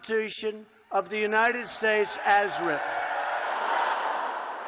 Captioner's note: crowd